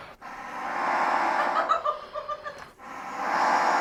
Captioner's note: laughing and saying "what?"